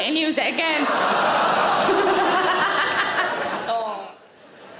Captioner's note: audience laughing